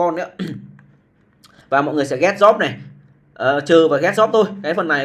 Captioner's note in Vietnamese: hắng giọng